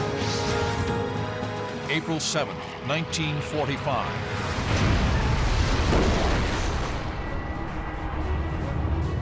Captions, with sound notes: [dramatic music] April 7, 1945-- [metal tearing]